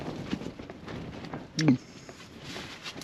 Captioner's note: gulps